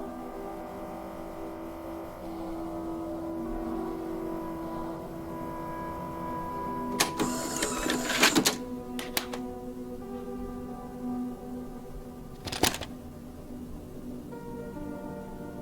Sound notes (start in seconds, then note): 0.2 TV hums; 0.2 eerie music continues; 6.9 VHS machine whirs and clacks; 7.0 button clicks; 12.3 cassette clacks